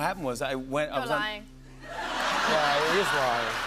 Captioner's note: laughter